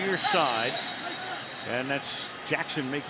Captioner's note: whistle blowing